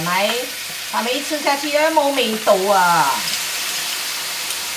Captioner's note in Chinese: 廣東話